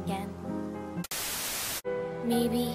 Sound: TV static

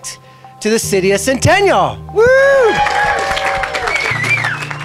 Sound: crowd applauds

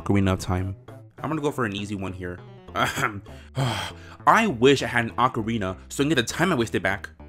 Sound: ahem

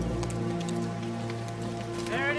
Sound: birds chirping; horse hooves

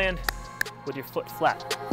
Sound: hands clapping

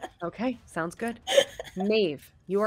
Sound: laughs

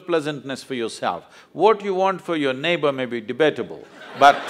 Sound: laughter

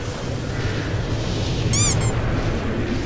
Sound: squeak

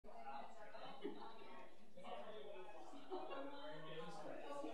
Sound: audience chattering

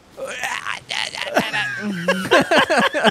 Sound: struggled grunting; both laughing

